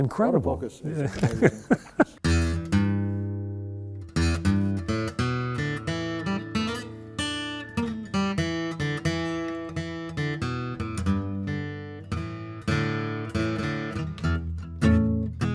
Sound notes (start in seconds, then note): 1.0 chuckles; 3.4 bluegrass guitar